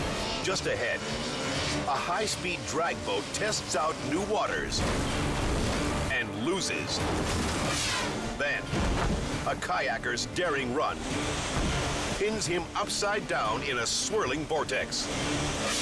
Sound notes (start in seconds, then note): 7.3 boat crashes